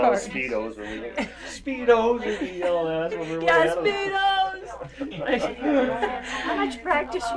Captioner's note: laughs